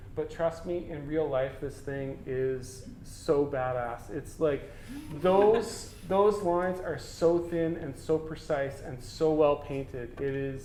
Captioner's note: audience: Laughter